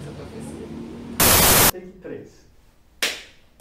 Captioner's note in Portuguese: chiado